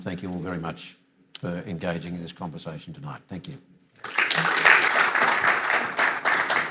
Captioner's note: applause